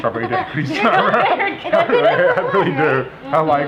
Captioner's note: laughter